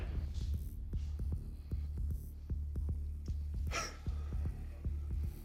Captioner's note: sighs